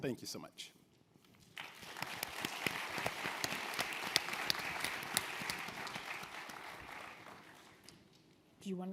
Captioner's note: audience applause